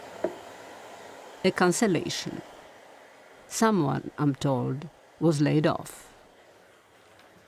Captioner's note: voice-over